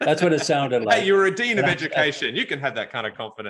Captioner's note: laughs